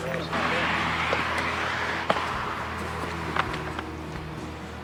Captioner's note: traffic humming; footsteps thumping; quiet guitar music